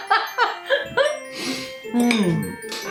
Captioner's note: laffin